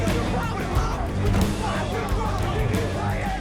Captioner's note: all yelling